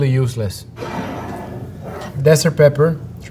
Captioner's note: jar sliding